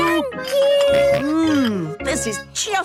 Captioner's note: snorts